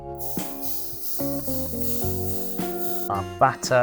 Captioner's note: aerosol sprays